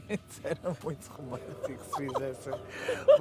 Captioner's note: laughs